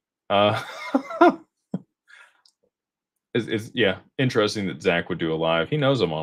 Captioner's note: laughter